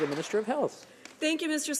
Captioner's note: some Applause